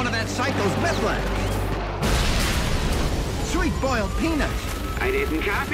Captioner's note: explosion